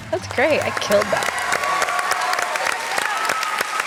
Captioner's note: cheering, applause